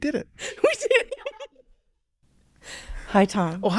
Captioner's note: laughing